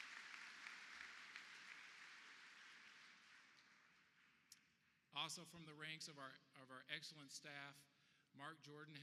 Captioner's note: applause